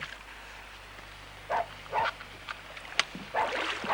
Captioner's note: barking gets louder